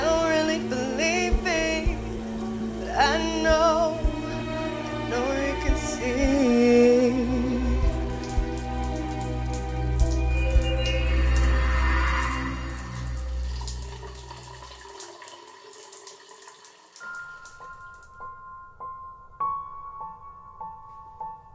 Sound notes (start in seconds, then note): 8.7 water dripping; 17.0 gentle menacing music